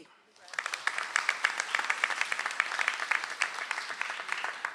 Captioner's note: audience applauds